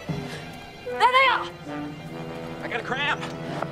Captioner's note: yells